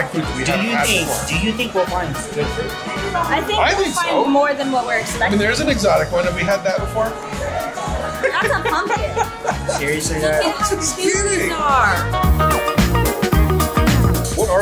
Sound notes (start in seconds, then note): 7.4 laughing